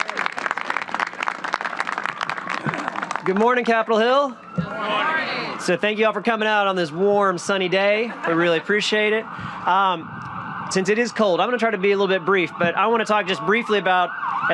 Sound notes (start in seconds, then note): 3.4 applause